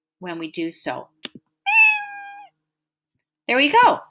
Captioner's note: meow